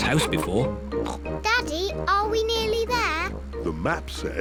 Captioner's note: snorts